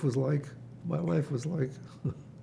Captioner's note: laughing